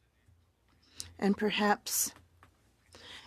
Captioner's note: speaking French